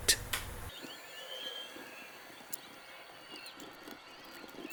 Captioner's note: tape whirring